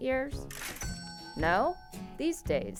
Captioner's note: cash register ringing